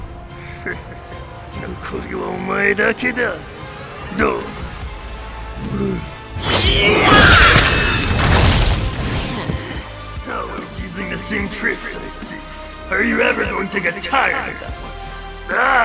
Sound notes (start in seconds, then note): 0.5 laugh; 9.4 exhale